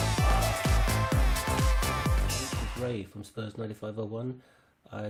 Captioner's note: 환호성